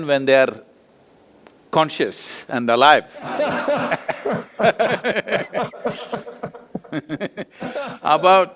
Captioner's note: both laugh